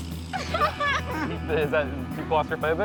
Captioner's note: laughs